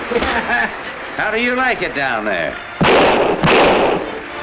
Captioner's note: laughs; gun bangs